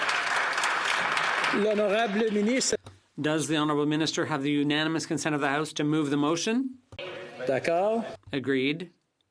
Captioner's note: applause